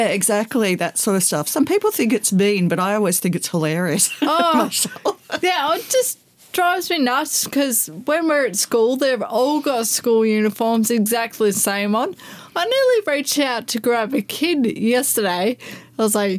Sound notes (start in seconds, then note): 4.0 laughter